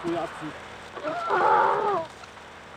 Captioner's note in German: Schrei